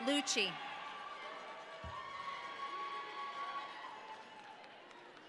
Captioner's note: audience cheering